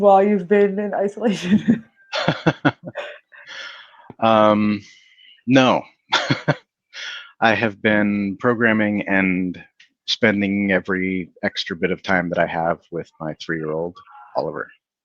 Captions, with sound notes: while you've been in isolation? (chuckles) - (laughs) No. (laughs) I have been programming and spending every extra bit of time that I have with my three-year-old, Oliver.